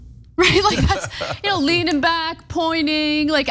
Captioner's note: laugh